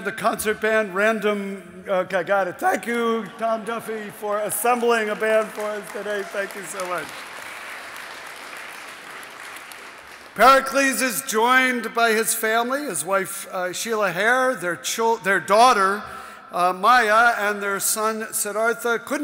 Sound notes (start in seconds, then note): 7.6 audience applauding